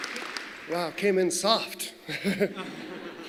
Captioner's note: applause